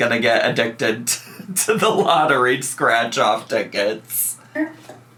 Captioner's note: laughs